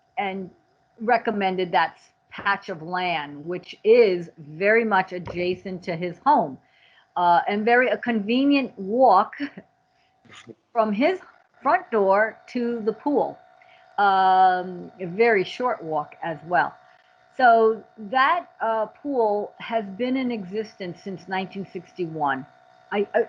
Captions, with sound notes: and recommended that patch of land, which is very much adjacent to his home, and very, a convenient walk (chuckles) from his front door to the pool. A very short walk as well. So, that pool has been in existence since 1961.